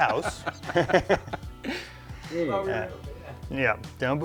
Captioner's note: both laugh